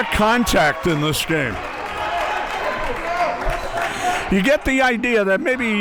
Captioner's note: audience cheering